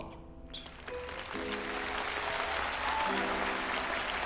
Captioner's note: audience applauding